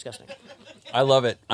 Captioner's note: laughs